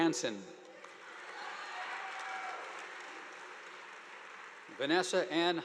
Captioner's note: audience applauding